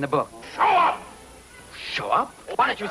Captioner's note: shouting in foreign language